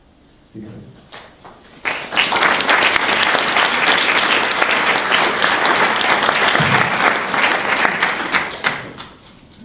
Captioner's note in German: Applaus